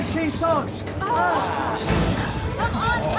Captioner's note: group groans